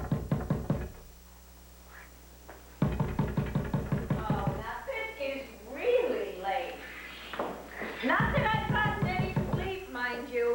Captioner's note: knock on door